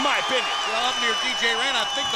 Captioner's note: crowd cheering